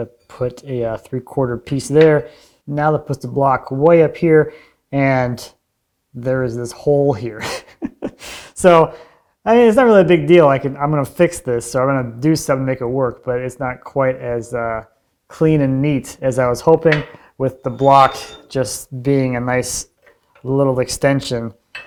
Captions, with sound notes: I'm gonna put a three quarter piece there. Now that puts the block way up here and there is this hole here. (chuckles) So I mean, it's not really a big deal, I'm gonna fix this. So I'm gonna do some make it work, but it's not quite as clean and neat as I was hoping with the block just being a nice little extension